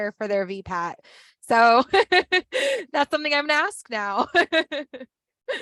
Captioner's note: laughs